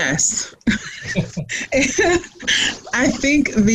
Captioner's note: both laughing